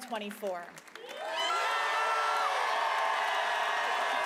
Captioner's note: cheering; applause